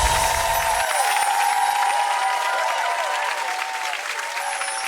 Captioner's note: audience applause